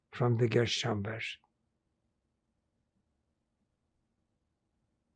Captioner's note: pauses 6 seconds